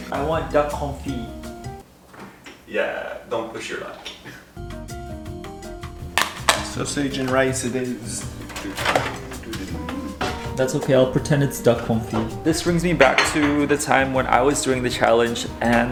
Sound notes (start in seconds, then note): 2.1 fridge pops; 4.7 upbeat music; 8.0 oven creaks